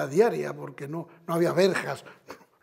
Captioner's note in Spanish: Ríe